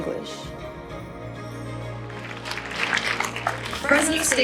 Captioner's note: applause